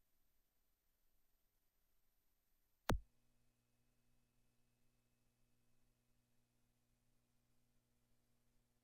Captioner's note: silence